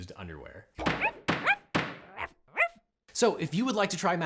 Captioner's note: gavel knocks; dog barks